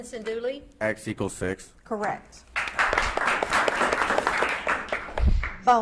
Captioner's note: audience claps